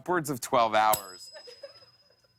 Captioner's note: ding